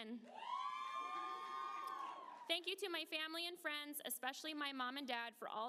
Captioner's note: applause